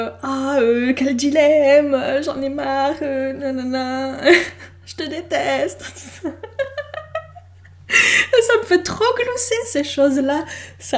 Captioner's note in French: glousse